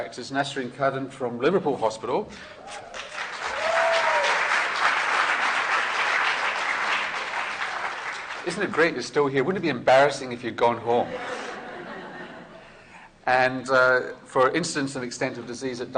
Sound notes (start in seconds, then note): 2.8 applause